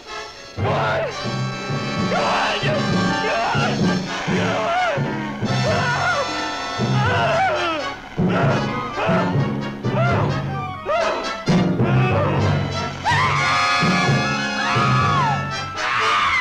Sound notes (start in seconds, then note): 4.8 screaming; 11.9 small Dove screaming